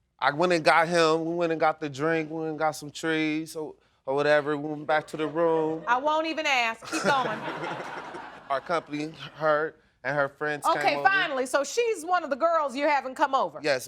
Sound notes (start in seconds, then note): 6.8 audience laughing